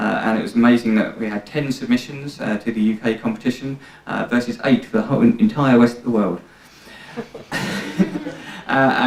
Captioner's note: laughter